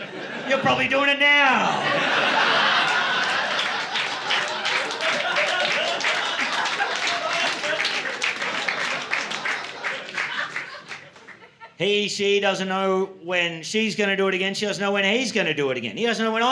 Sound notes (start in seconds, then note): 3.4 laughter; 4.8 applause